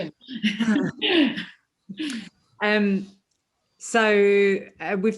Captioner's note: laughing